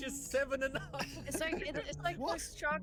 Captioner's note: laughs